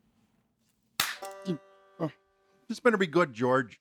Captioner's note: claps